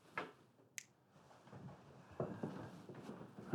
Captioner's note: snaps